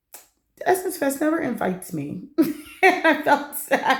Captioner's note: laughter